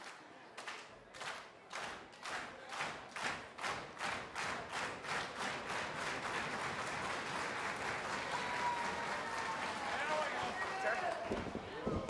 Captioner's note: clapping